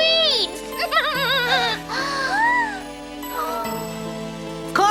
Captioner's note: gasping